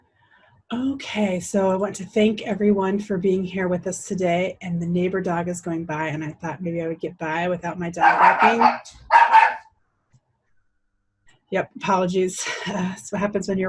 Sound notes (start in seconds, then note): 8.0 dog barks